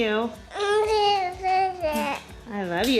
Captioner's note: babbles